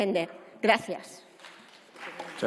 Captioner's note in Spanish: Aplausos